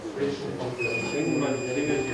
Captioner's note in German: Hoher Piepton